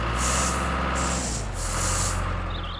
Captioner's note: engine Running